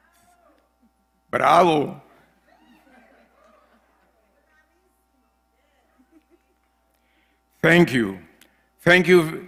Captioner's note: laugh